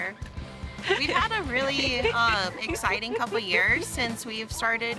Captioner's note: laughing